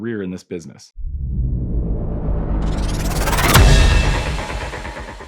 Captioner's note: loud dramatic noise